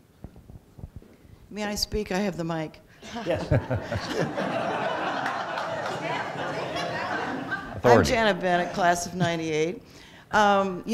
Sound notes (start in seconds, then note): 3.0 laughter; 4.8 scattered applause